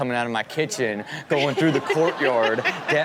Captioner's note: crowd laughing